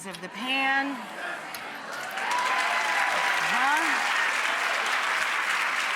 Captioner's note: audience cheering and clapping